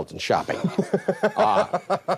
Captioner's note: man laughs